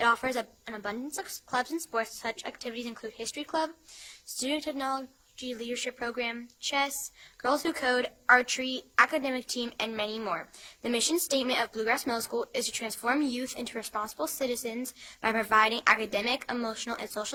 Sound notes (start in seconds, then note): none